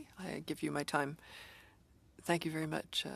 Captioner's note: speaking French